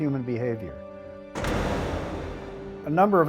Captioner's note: jail door closing